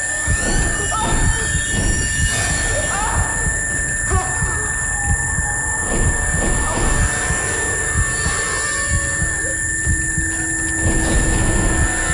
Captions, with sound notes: - But once I have you, I will control the others. - Guess again. (tone droning) (grunting)